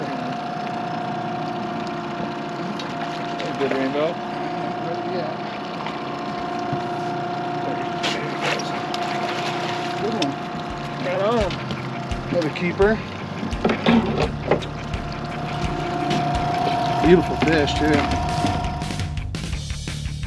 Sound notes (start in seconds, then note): 8.1 fish splashing